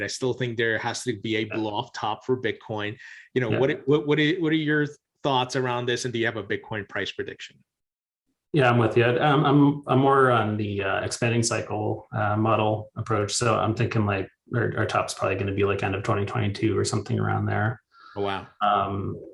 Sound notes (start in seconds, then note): 2.4 chuckles